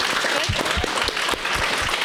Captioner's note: applause